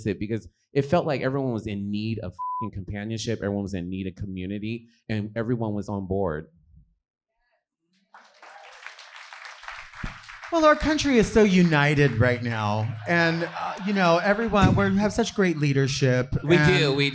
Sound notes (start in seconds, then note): 2.4 beep; 8.1 audience clapping